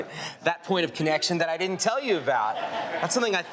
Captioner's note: audience laughing